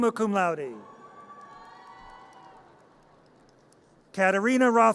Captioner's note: audience cheers